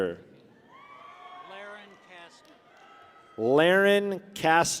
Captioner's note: people cheer